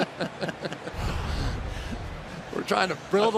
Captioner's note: laughing